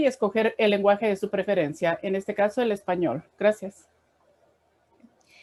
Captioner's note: spanish 00:00:53